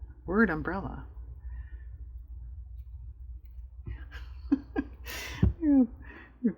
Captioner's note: laughs